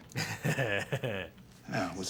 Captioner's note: laughs